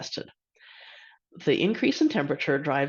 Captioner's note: inhales sharply